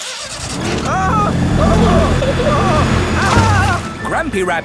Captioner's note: grandpa screaming